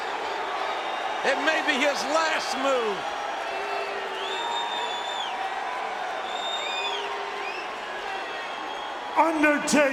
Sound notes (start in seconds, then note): 5.9 crowd cheering